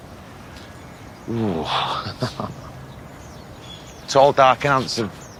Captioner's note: chuckles